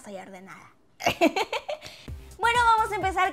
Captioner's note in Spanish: Risas